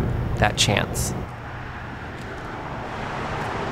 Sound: traffic sounds

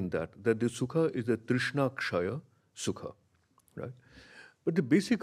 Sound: speaks in a foreign language

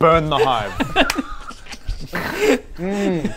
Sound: chaotic giggles

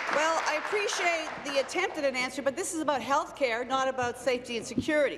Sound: applause

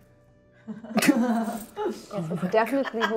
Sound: all chuckle

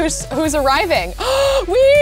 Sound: gasping

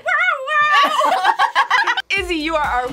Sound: both laugh

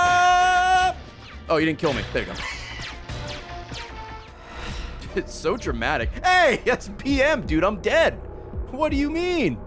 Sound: laughs

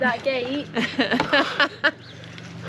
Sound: laughing

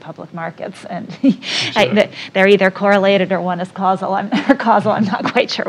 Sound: laugh; laugh

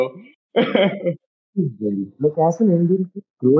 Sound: laughter

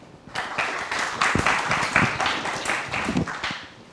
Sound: applause

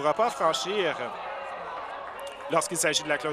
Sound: applause

